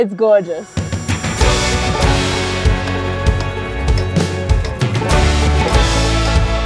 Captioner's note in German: Fröhliche Musik; Hammerklopfen